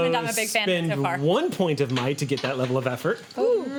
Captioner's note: none